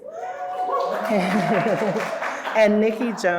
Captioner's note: audience cheering